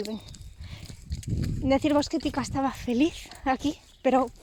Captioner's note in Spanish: emocionada; con la voz quebrada